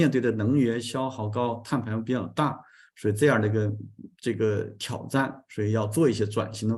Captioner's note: continues to speak in Chinese